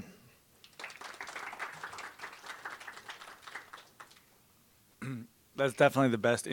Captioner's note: applause